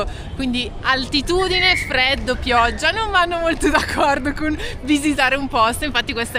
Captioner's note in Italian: risate